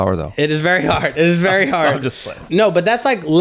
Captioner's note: chuckling